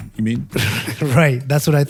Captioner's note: laugh